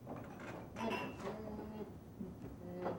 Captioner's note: none